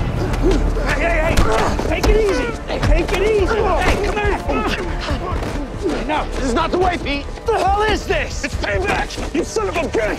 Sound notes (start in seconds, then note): 4.3 all grunting